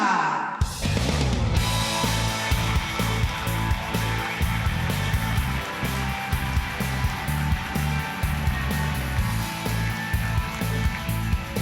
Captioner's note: applause